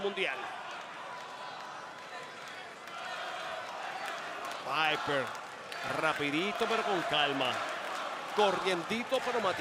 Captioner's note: applause